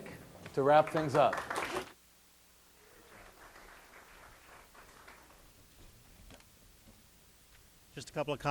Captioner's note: audience applause